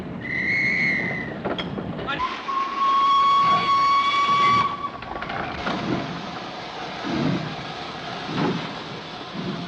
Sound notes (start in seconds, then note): 0.0 whistle blows; 2.2 train whistle blows